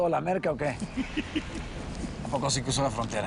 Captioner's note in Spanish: Risas